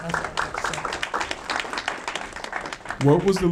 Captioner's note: audience clapping